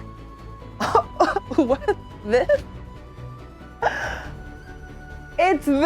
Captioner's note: chuckling